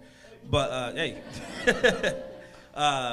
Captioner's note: laughs